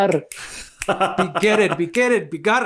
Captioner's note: laughs